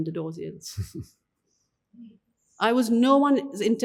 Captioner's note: giggles